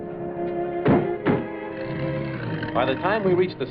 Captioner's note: car doors shutting; engine accelerating